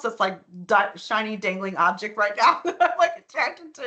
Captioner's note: laughing